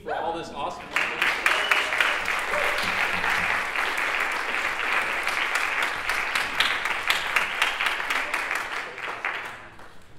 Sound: applause

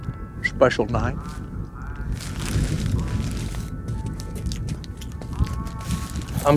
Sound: none

